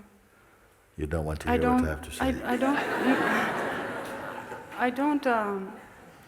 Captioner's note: laughter